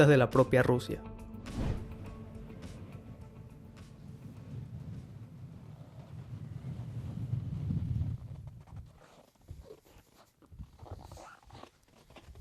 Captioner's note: wind